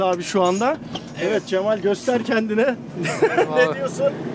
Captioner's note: laughings